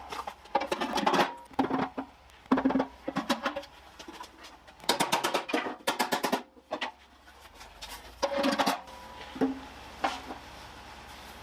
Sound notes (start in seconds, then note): 0.7 working sound